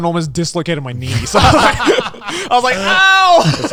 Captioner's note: all laughing